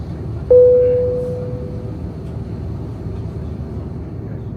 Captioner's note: plane beeping